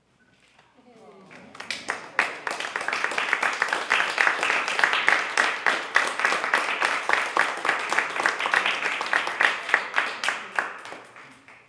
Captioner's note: clapping